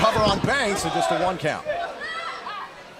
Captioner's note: crowd cheering